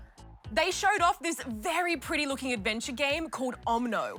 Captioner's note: none